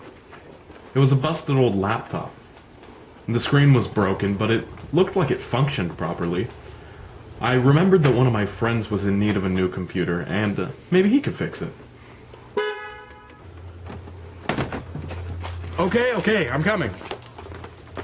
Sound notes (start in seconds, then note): 12.5 car Horn